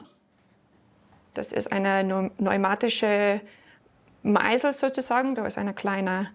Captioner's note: with a slight accent